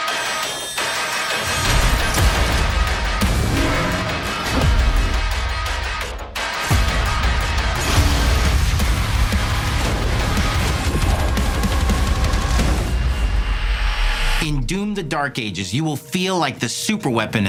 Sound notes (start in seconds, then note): 0.2 whining, drilling; 3.3 dull roars; 12.4 a ringing as the music fades